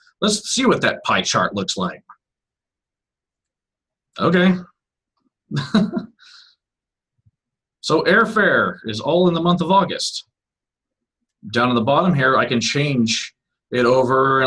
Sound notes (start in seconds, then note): 5.5 laughs